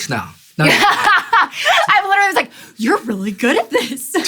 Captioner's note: laughs